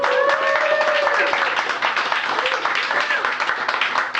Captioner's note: applause